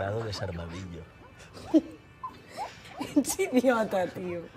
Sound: laughs

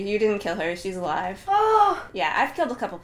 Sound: relieved sigh

